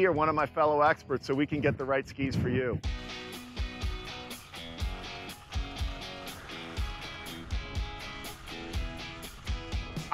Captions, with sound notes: or one of my fellow experts, so we can get the right skis for you. (energetic music) (skis whooshing)